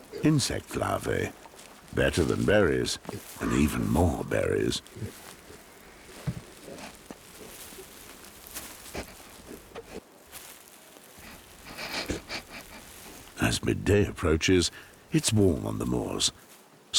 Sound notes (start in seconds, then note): 11.2 sniffles